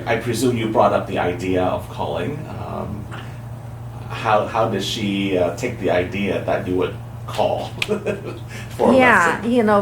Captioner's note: laughs